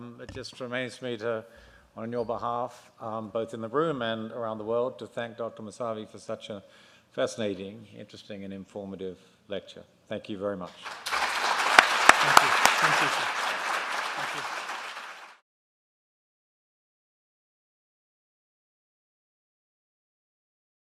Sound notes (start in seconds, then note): 10.7 applause